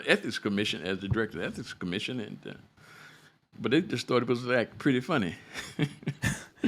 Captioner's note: laughter